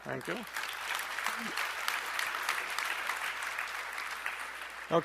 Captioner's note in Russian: аплодисменты